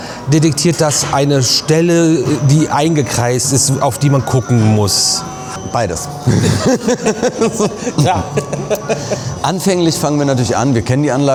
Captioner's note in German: gelächter